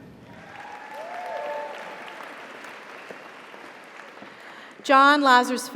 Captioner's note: audience applauds; audience cheers